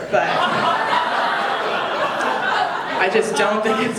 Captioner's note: audience laughing